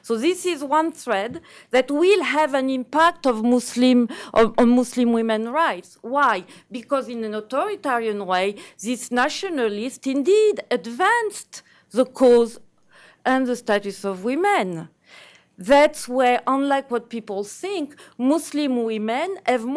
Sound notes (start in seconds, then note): none